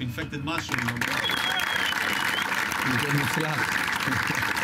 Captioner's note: applause